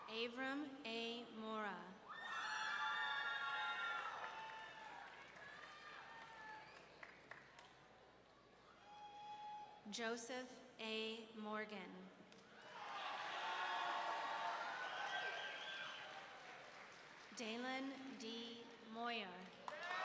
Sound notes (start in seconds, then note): 2.1 audience cheering; 12.6 audience cheering